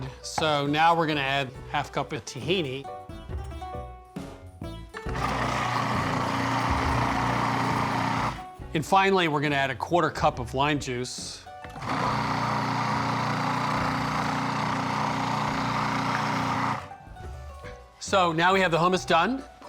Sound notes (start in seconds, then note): 5.2 processor whirring; 11.7 whirring